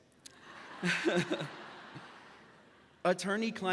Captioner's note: audience laughs